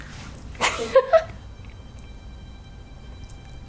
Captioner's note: giggles